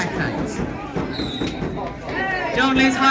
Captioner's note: whistle blows